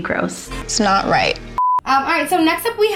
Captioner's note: beep